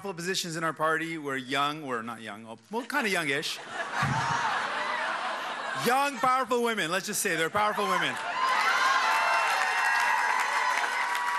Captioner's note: cheers and applause